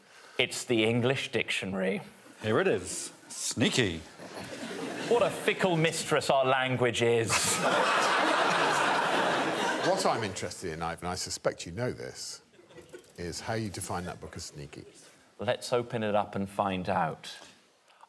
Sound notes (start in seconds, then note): 7.3 audience laughing